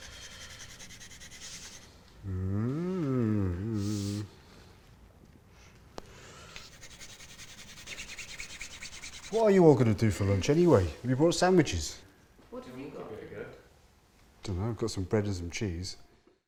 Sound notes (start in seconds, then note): 2.2 humming